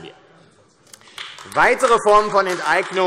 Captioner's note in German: Beifall AfD